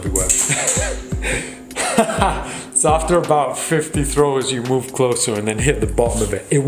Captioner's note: laughs